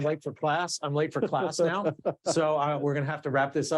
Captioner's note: laughing